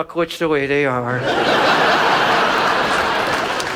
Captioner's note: audience laughs; audience applauds